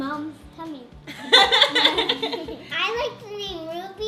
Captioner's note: laughing